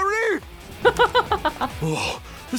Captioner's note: chuckles